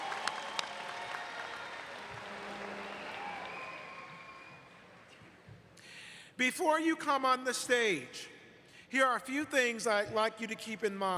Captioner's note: applause